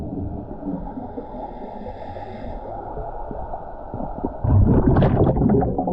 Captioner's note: underwater sounds continue